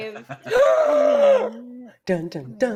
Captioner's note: gasps